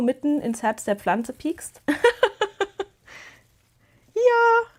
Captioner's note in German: Gelächter